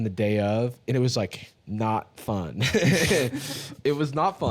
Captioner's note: laughs